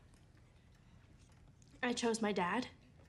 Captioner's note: none